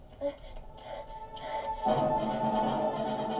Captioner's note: woman heaving; tense music